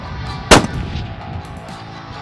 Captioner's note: gun Shot